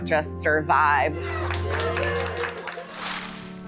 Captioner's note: cheering and applause